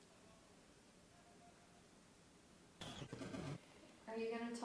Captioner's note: very faint voice echoing